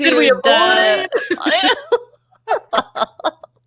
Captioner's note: both laughing